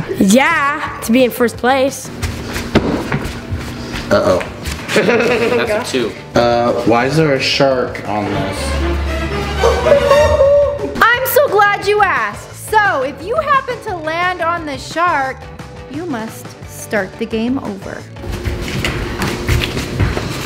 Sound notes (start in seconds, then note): 4.8 laughs; 7.6 dramatic orchestral music